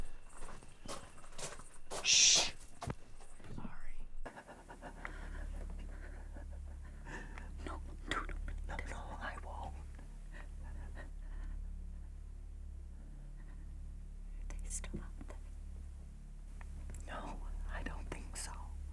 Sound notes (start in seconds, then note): 0.3 footsteps crunching; 4.3 both gasping